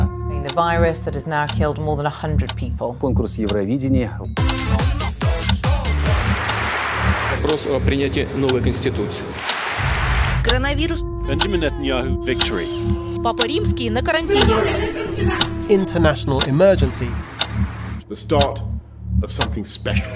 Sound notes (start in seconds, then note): 9.5 applause